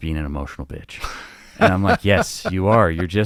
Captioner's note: laughing amusingly